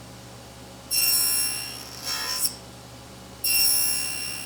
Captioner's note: tool squealing